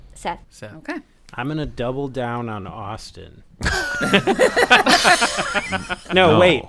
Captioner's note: laughter